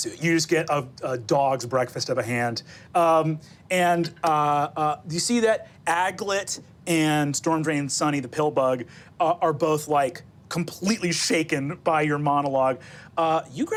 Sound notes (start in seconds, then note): none